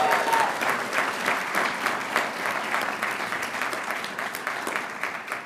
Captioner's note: audience cheering and applauding